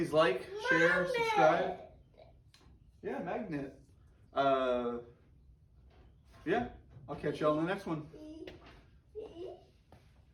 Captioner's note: toddler babble